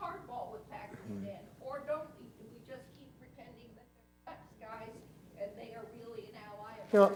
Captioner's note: off mic